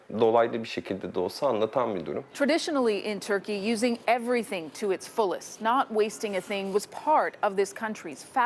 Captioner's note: speaking foreign language